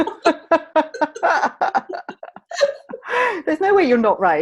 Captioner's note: laughing